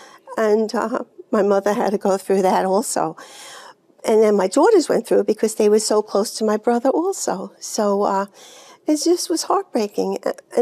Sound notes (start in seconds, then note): none